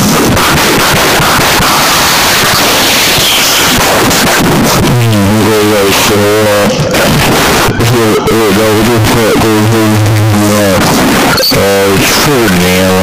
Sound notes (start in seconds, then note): 4.7 nuclear detonation